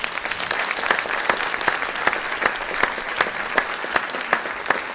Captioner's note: audience clapping